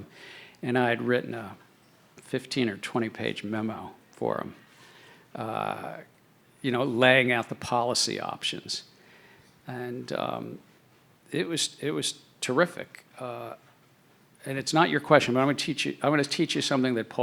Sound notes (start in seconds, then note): none